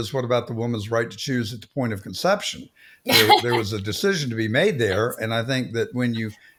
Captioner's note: laughing